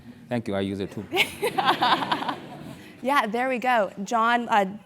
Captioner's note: laugh